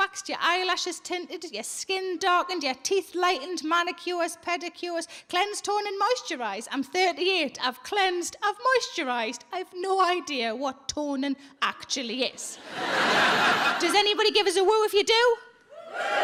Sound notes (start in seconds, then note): 12.5 audience laughs